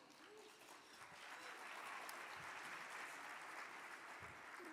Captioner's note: audience clapping